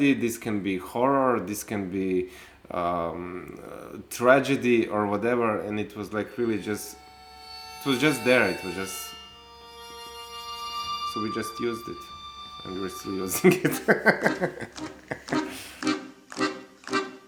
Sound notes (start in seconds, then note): 7.0 mysterious music; 13.2 laughs; 14.6 upbeat music